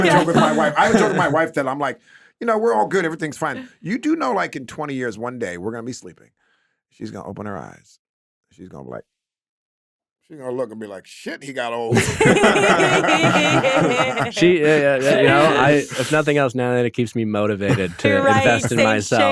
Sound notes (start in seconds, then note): 11.9 everyone laughing